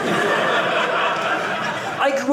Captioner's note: audience laughing